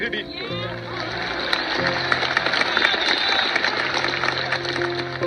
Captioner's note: audience applauds